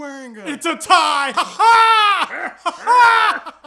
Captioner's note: weird laughing; even weirder laughing